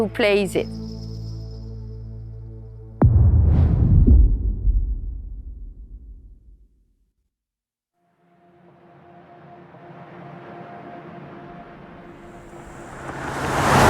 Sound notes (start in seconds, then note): 4.8 dramatic sound